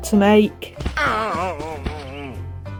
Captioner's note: Salamango groan!